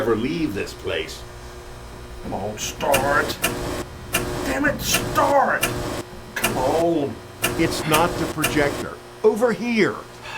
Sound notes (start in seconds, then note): 6.7 35 mm film projector buzzing